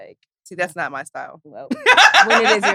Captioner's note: laughs